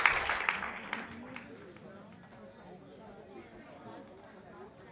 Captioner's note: audience chatters